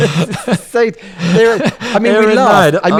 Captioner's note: laughs